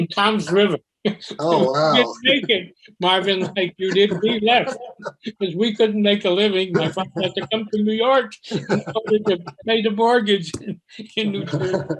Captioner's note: laughing